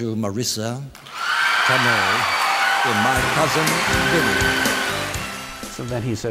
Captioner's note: audience cheers and applauds